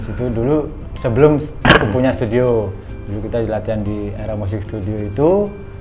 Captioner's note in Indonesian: berdehem